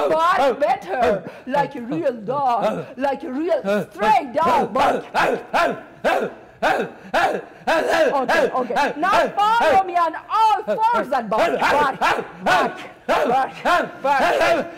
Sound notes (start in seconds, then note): 0.0 doctor loudly barking; 4.8 doctor loudly barking